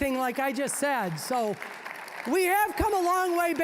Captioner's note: applause